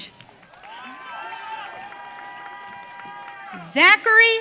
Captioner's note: audience cheering